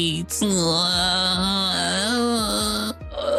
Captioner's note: groaning